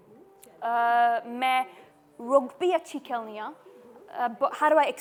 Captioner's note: broken Punjabi